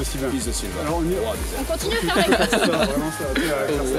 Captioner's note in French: rires hors-champ